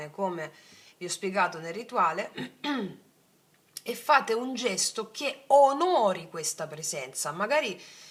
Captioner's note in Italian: schiarire la voce